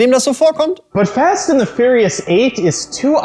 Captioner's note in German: englisch